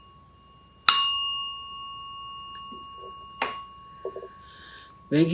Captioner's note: rings bell